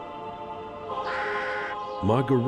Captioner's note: birds squawk